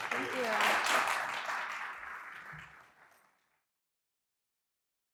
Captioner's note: audience clapping